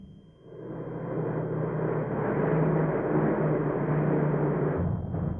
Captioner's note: plane engines roaring